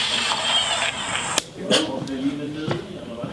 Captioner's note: slap